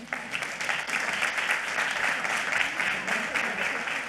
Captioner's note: audience clapping